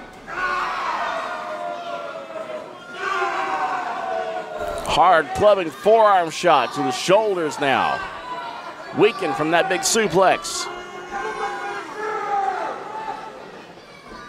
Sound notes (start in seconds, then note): 0.3 screams; 11.6 crowd yells